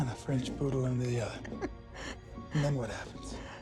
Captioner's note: Andy chuckles